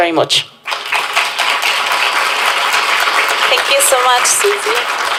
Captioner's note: applause